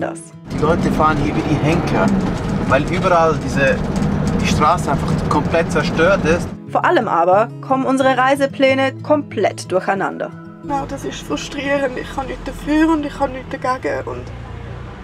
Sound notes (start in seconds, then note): 10.3 in Swiss German